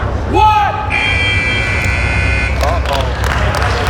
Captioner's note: buzzer blaring; spectators applauding